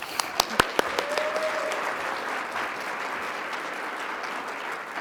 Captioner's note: audience clapping